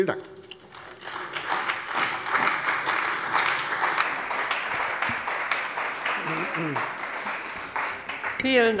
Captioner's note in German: Beifall bei der CDU und dem BÜNDNIS 90/DIE GRÜNEN